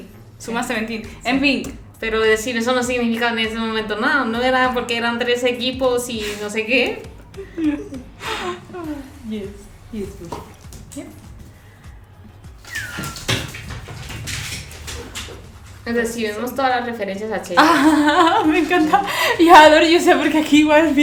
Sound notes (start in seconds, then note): 7.1 they laugh and play